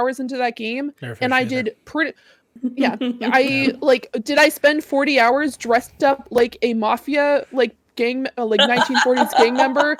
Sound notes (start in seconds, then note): 8.6 laughing